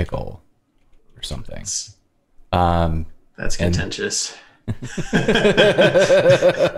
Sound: laughter

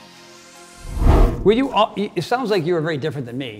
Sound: air whooshing

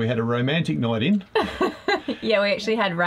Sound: laughing

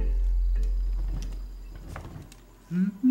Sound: chair rocking; nurse humming

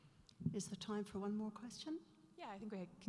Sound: voiceover

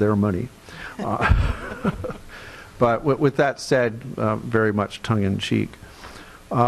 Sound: chuckles

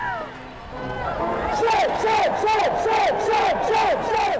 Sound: audience yelling

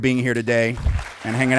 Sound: clapping

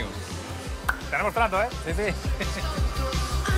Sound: laughs

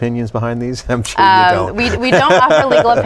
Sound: laughs

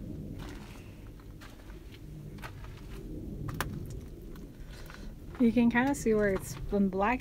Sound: wind whistling

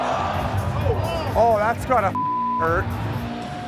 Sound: crowd exclaims; beeps

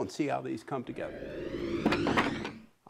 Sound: wood whooshes

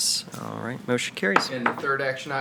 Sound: gavel taps

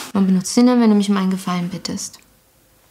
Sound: none

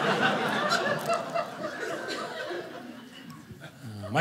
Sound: audience laughing

